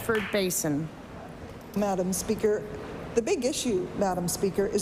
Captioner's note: applause